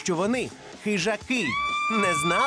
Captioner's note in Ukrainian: крик